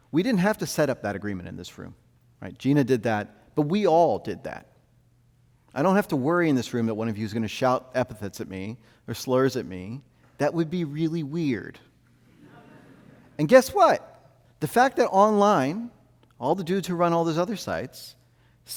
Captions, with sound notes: We didn't have to set up that agreement in this room. Gina did that. But we all did that. I don't have to worry, in this room, that one of you is gonna shout epithets at me, or slurs at me. That would be really weird. (audience laughs) And guess what? The fact that online, all the dudes who run all those other sites,